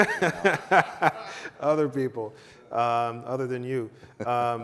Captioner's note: laughs